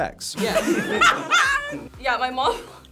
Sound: group laughs

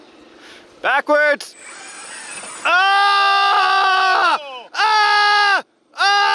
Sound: screaming

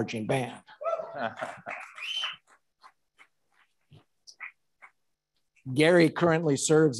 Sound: audience cheering and applauding

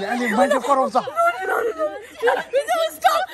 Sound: laughing

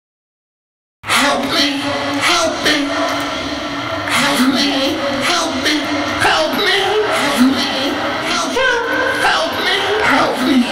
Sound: scary sound

